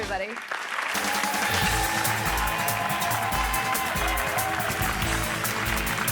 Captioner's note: audience applauding and cheering